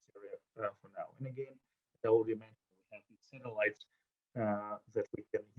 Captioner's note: audio drop